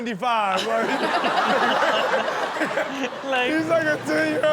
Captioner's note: audience laughs